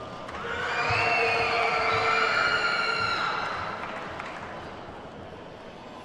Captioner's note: attendees whooping and clapping